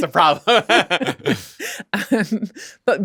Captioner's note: laughter